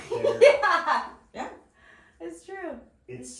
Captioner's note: laughing